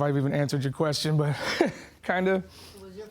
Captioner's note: chuckles